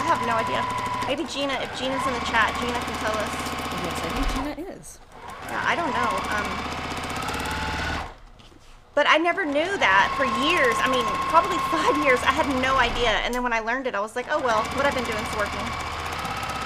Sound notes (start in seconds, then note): 0.0 machine speeds intensifies; 5.2 machine whirrs louder